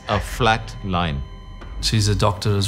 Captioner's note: cardiac monitor beeping